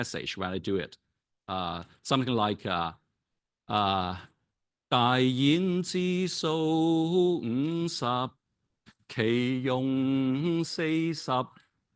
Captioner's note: I Ching Chanting in Cantonese